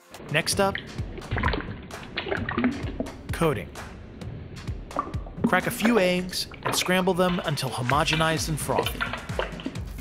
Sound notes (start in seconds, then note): 1.4 splashing; 9.8 rhythmic drumming